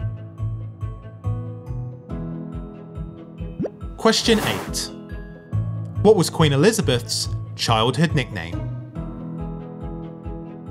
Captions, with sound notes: (number pops and whooshes) Question eight. what was Queen Elizabeth's childhood nickname?